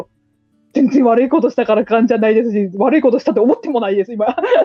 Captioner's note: laughs